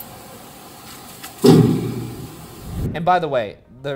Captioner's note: rat thudding